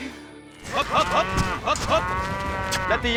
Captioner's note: cows mooing